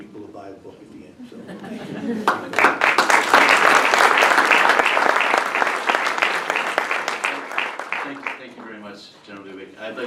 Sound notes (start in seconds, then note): 1.2 laughter; 2.2 applause